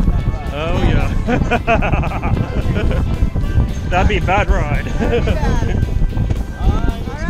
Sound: laughs

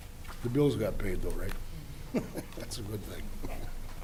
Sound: chuckling

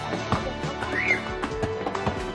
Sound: Cecille squeals

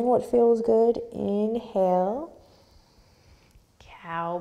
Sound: deep breath

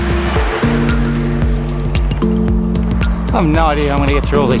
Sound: car passing

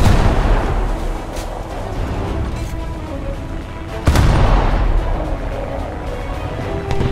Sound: aircraft incoming

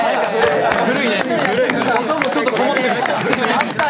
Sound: old sound effect

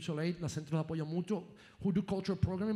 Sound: speaking in foreign language

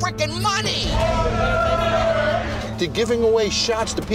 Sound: cheering

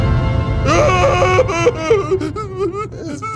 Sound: cries

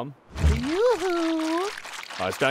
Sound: wet sloshing

